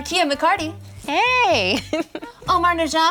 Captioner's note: chuckles